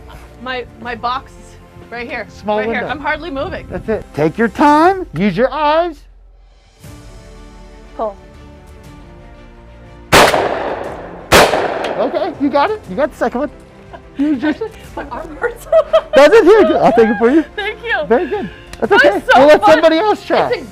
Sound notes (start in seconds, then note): 10.1 gun firing; 15.6 laughung